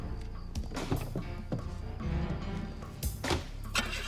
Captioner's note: doors thudding